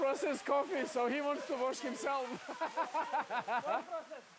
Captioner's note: laughing